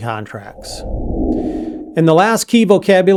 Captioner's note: air swooshing